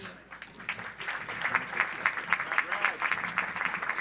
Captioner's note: audience applauds